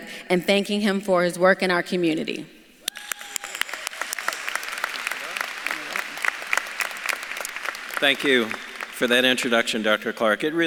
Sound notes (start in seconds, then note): 3.0 audience claps and cheers; 4.4 speaks faintly